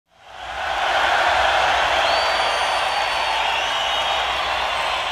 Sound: crowd cheers and applauds

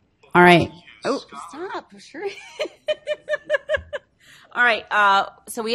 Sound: laughs

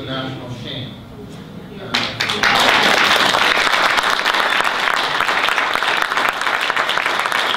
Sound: audience applause

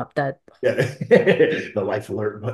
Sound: laughing

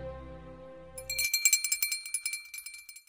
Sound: bell dings

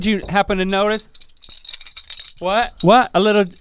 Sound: metal jangling

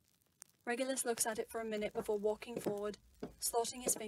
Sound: footsteps

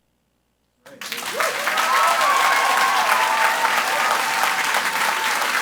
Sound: audience applauds and cheers

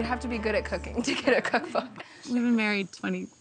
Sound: laughs

